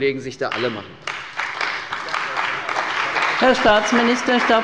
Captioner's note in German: Beifall bei der CDU und dem BÜNDNIS 90/DIE GRÜNEN